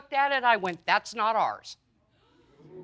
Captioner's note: audience gasping